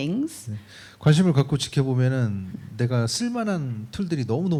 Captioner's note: speaking korean